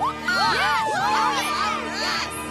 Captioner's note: cheers